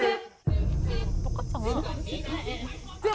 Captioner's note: thud sound effect